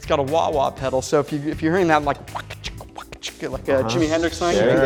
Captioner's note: wah-wah noise